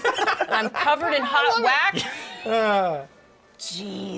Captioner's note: shouting; laughing